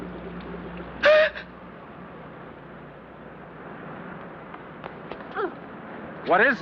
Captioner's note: gasp